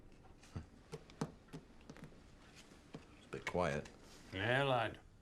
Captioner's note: Rob chuckles